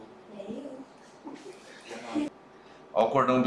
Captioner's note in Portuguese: risos